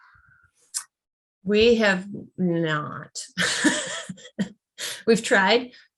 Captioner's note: laughs